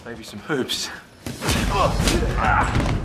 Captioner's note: grunting